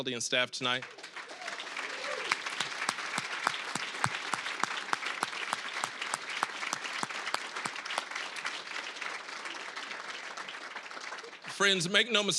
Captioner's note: applause